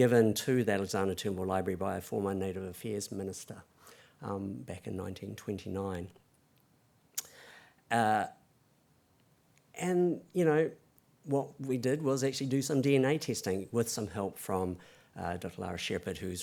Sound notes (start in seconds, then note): none